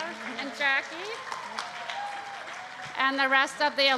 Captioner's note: applause